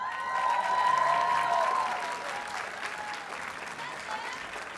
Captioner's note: audience cheers and applauds